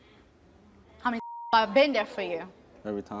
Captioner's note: beep